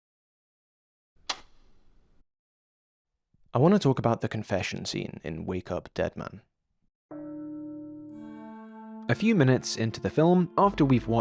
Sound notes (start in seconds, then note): 7.1 church bell rings